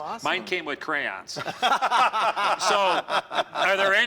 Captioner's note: laughter